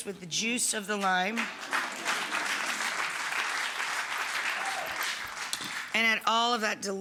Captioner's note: audience clapping and cheering